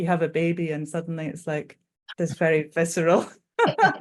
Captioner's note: both laughing